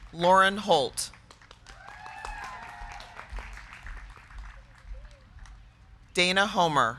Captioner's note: crowd clapping; crowd cheering